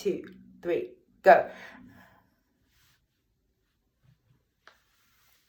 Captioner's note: silence